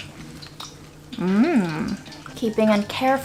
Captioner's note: hums